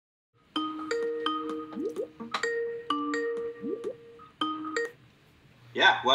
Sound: skype ringtone

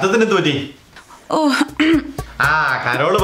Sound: clears throat

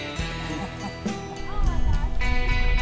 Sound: laughter

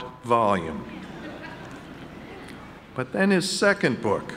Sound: audience laughing

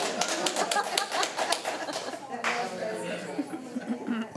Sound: laughing

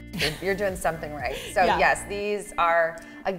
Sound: laughs

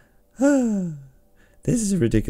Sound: sigh of joy and partial regret

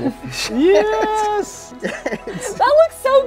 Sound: laughs

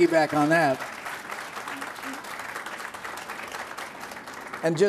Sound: applause

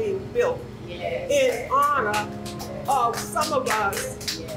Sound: attendees clapping

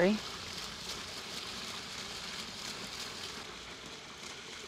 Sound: water splashing

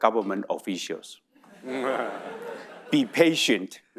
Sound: audience laughing

